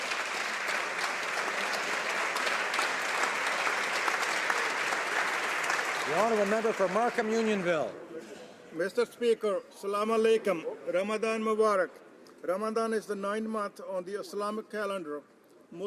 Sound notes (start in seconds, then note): 2.9 applause